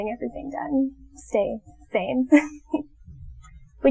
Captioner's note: laughs